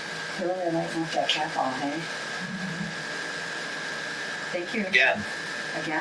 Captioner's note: faintly speaking